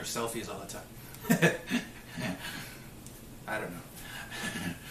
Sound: chuckles

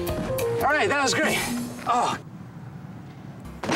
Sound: groans

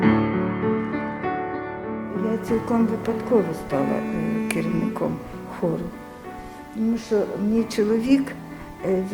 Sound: speaking Ukrainian

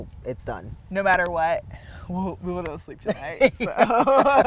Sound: both laughing

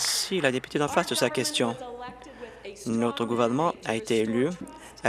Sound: applause

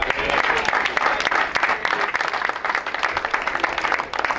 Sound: crowd applauds

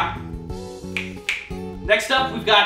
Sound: double snap

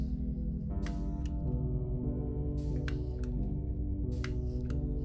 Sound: device whirs and clicks

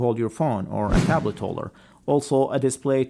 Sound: Instagram username whooshes

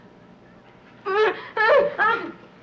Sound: Anne moaning

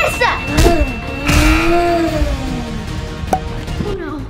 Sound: buzzer beeping

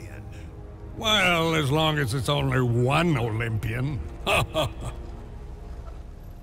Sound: laughs

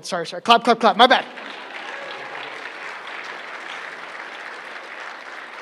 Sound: applause

